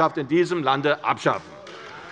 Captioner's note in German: Beifall bei der CDU